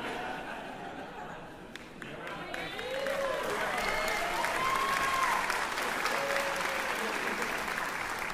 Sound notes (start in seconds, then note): 2.3 cheering